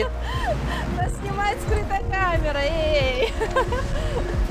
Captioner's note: laughter